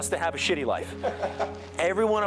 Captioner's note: colleague laughs